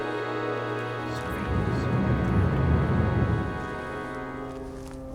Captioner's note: whispered Celtic voices